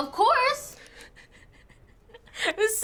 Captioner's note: chuckling